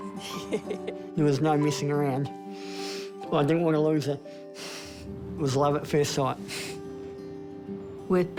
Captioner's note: chuckles; chuckles